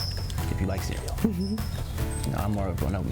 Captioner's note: chuckles